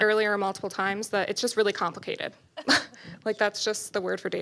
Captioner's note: laughs